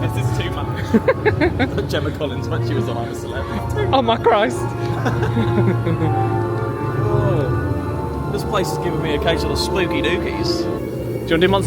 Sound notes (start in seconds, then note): 0.0 laughs; 4.6 men laughing